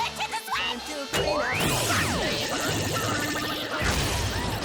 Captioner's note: laser fires